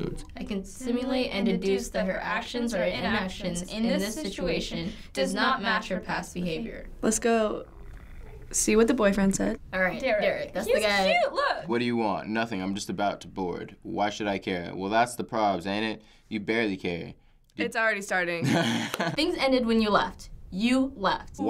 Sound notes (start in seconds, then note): 18.4 chuckles